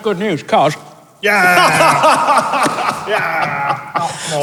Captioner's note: laughs